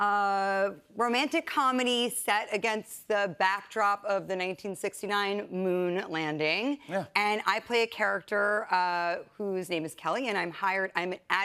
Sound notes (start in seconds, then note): none